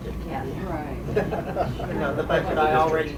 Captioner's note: chuckles